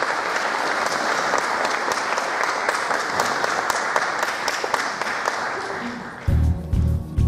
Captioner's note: applause